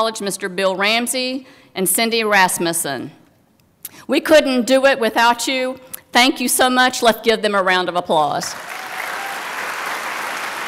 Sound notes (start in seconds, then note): 8.5 applause